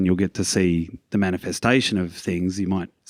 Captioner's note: none